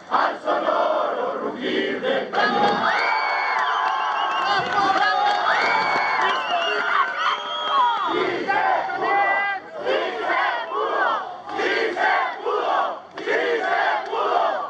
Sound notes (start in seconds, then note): 2.4 people shouting; 5.0 crowd